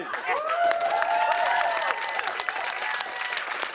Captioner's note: cheers and applause